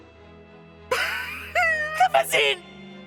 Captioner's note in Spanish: Chillidos patéticos